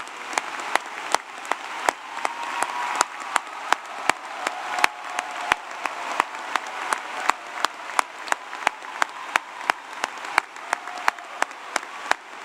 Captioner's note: applause